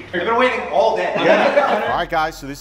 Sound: laughing

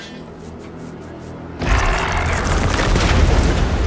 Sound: giant crab growls

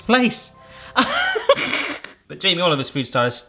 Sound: snicker

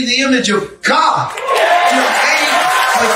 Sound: audience applauding and cheering

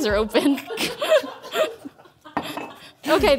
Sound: laughing

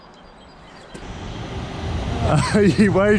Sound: train passing; laughs

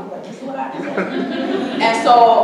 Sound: audience chuckling

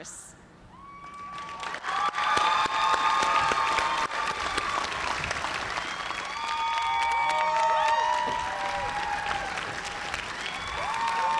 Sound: cheers and applause

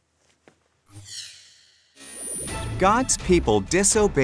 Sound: logo zaps

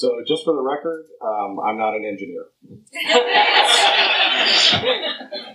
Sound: laughter

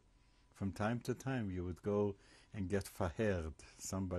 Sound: hebrew

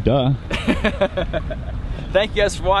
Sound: laughing

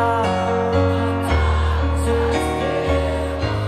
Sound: crowd

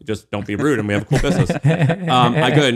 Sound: laughing

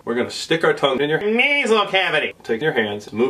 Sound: nasally voice

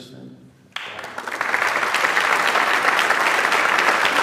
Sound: audience applauds

